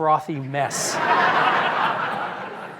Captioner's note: laughter